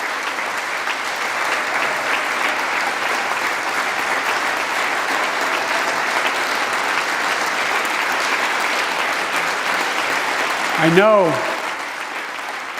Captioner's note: applause